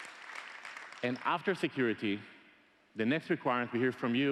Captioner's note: applause